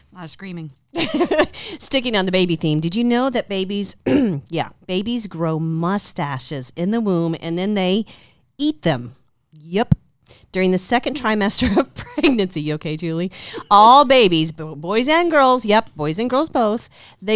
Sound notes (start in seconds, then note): 1.2 laughs; 4.0 clears throat; 12.1 laughing